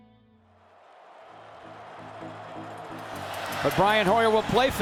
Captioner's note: crowd cheering